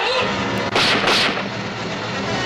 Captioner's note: yelling; gunshots